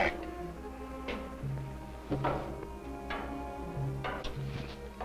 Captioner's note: footsteps approaching